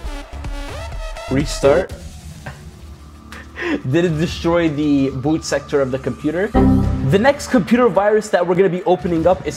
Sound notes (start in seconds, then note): 0.1 upbeat music; 6.5 warning dinging